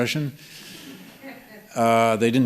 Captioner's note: laughter